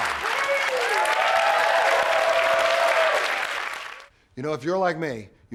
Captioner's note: applause, cheers